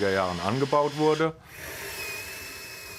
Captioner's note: drilling noises